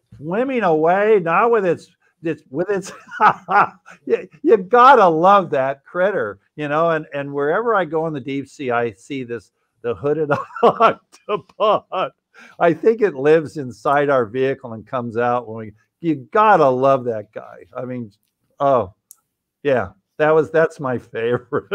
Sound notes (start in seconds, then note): 2.8 laughing